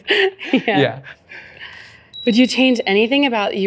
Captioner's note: bell ring